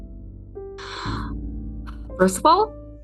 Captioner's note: lucy sighs